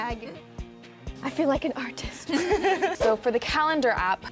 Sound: laughs

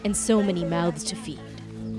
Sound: speaking alternate language

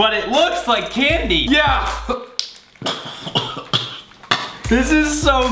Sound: coughing

